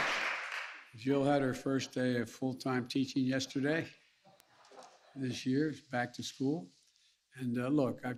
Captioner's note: applause